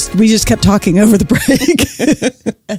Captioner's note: laughs